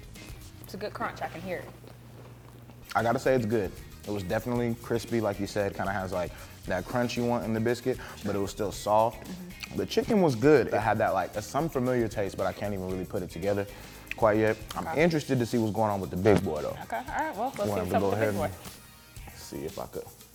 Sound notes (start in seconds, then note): 1.6 food crunches